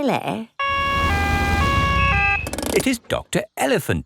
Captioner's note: siren wails